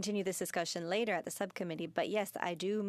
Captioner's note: speaking in French